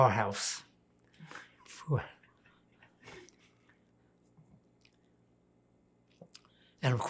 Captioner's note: pauses 6 seconds